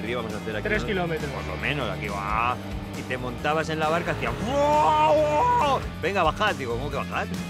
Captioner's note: exclamation